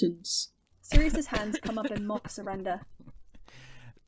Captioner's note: Sirius chokes back a laugh